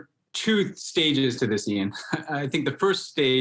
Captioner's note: laughs